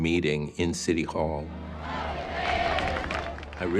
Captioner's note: protesters chanting